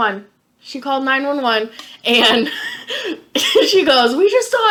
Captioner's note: laughing